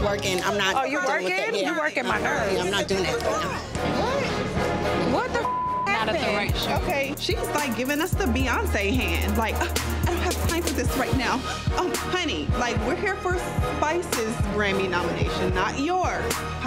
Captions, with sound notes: - I'm just working. I'm not dealing with it. - Oh, you working? - Yeah. - You're working my nerves. - I'm not doing that. - What? (dramatic music) What the (beep) happened? - I'm not at the right shoot. - Okay. She was like giving us the Beyonce hand. Like, "I don't have time for this right now." Oh, honey, like we're here for Spice's Grammy nomination, not yours.